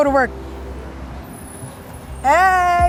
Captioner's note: door squeaks